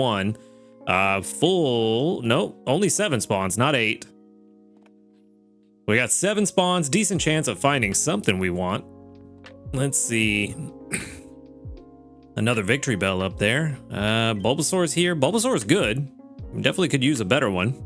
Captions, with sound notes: Full, nope, only seven spawns, not eight. We got seven spawns, decent chance of finding something we want. Let's see. (chuckles) Another victory bell up there. Bulbasaur is here. Bulbasaur is good. Definitely could use a better one.